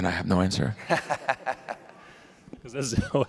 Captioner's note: laughs